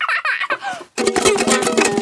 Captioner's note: giggles; vigorous, unpleasant strumming